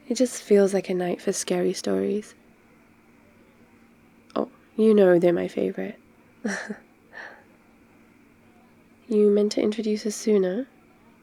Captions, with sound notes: it just feels like a night for scary stories oh, you know they're my favourite *laughs* you meant to introduce us sooner?